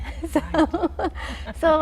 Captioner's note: laughing